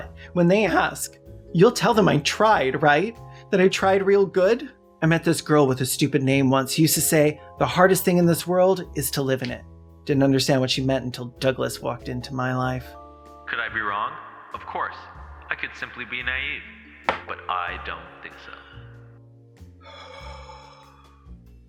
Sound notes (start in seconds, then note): 13.3 dreamy voiceover; 19.8 laboured breath